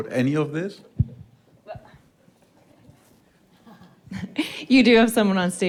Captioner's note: speakers chuckling